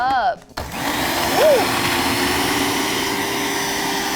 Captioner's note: blender whirring